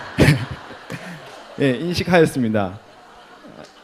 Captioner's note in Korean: 청중 웃음